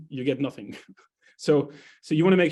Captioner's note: chuckles